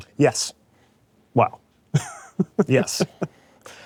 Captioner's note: laughs